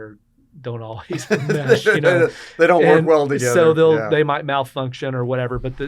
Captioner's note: laughs